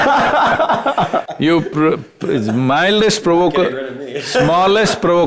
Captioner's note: both Laugh; laughs